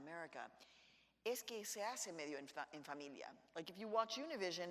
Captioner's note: speaks in Spanish